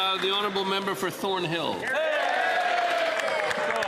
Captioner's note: some Applause